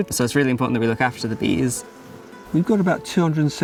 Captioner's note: bees buzzing